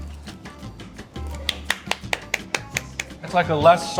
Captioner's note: applauds